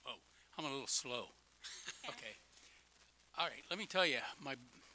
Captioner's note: laughing